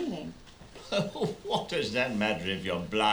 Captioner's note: laughing